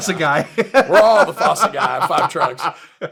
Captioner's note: laughs